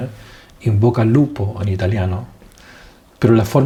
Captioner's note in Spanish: en italiano